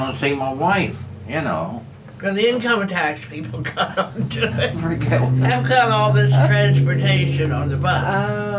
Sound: laughter

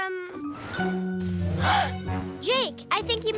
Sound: gasping

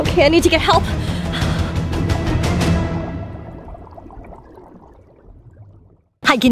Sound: dramatic music; bubbling sound

